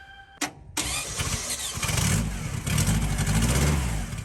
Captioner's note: car engine roaring